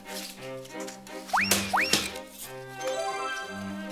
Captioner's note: snap!